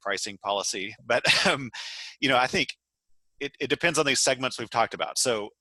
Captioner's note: laugh